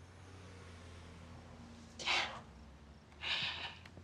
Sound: sighs

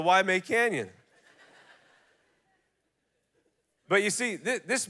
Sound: congregation laughing

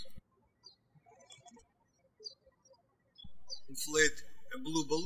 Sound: birds chirping

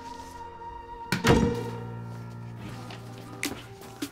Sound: dramatic music; door slams; upbeat music

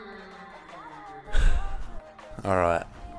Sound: sigh

